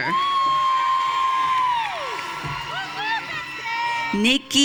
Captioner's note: audience cheering